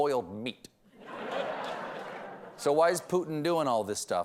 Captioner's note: laughter